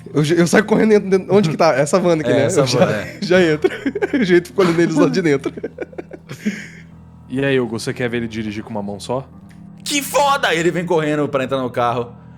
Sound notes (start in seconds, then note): 3.9 laughing